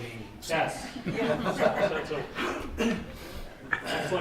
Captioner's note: all laughing